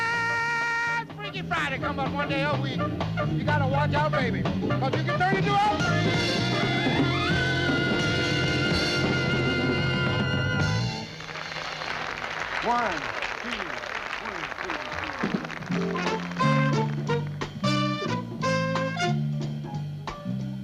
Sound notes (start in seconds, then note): 12.1 applause